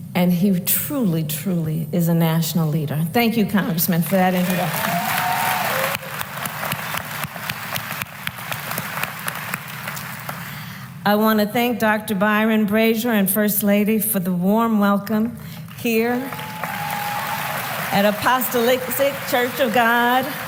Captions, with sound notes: And he truly, truly is a national leader. Thank you, Congressman, for that introduction. (Applause.) I want to thank Dr. Byron Brazier and First Lady for the warm welcome here -- (applause) -- at Apostolic Church of God.